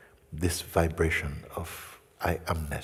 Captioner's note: none